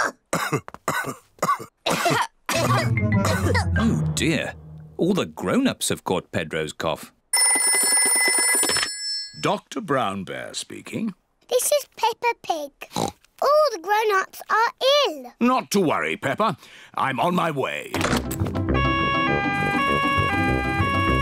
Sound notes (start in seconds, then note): 0.0 coughs; 1.4 all cough; 7.3 phone rings; 12.5 oinks; 18.8 siren wails